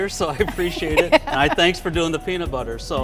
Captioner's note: laughing